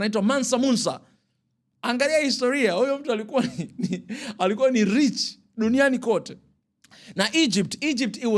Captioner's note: laughter